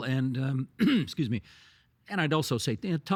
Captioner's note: clearing throat